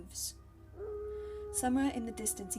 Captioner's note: wolf howling